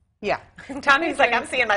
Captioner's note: laughter